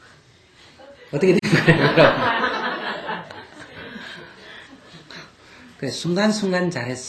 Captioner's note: /Audience Laughter